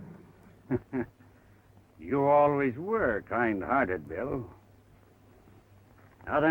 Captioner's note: chuckles